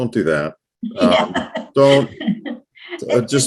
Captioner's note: chuckles